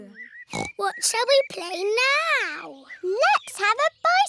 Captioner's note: snorts